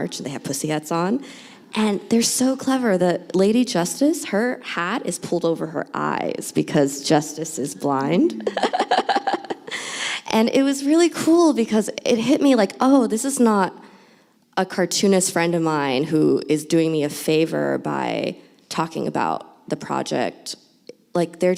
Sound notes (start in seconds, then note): 8.4 laughs